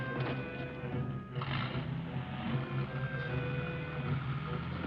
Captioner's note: car engine revving